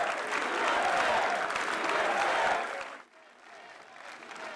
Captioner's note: applause